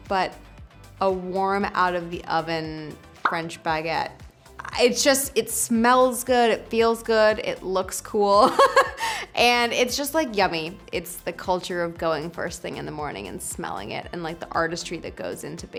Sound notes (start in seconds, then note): 8.4 Lily laughs